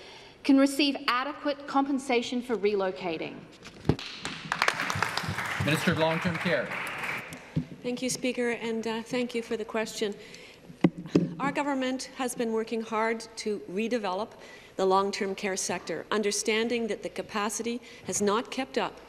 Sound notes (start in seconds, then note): 8.5 applause